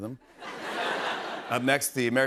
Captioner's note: laughter